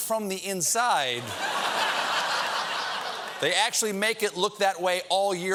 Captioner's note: laughter